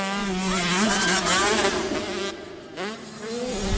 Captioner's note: whoosh sfx